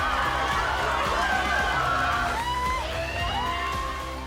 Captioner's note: crowd cheering